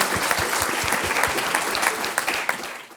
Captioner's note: applause